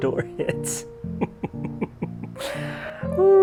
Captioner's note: laughing